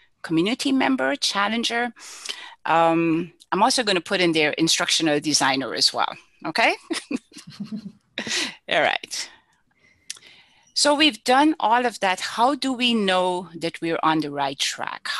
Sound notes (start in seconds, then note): 7.2 laugh